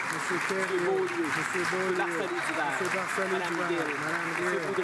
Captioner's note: applause